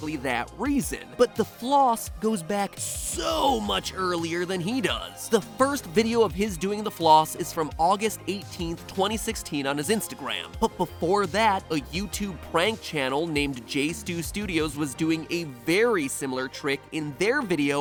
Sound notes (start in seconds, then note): none